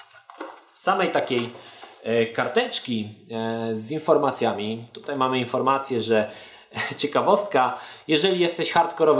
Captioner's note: chuckle